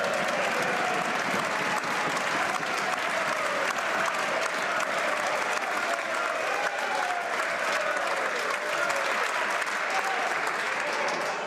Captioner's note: some Applause